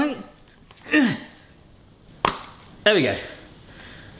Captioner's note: grunts, smacks face